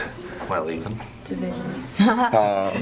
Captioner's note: laughter